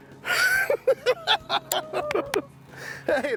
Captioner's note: both laughing